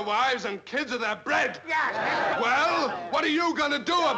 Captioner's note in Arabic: الناس يتحادثون